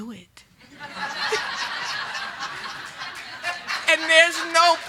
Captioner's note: group laughing